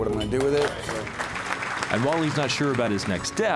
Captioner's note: applause